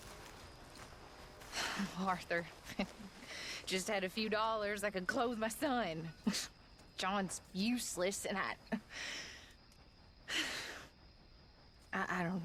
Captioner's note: sighs